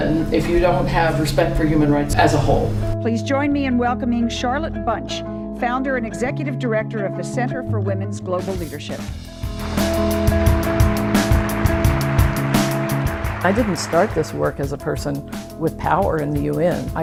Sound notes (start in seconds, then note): 9.5 applause